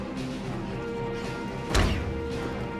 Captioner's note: door rattles